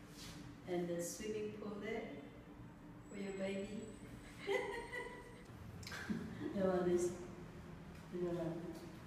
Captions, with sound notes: And the swimming pool there For your baby [laughs] That one is.. And that one..